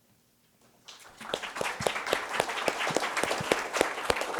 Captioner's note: applause